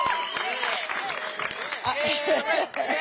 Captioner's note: applause